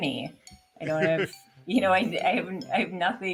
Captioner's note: laughing